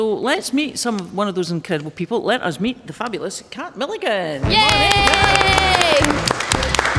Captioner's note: applause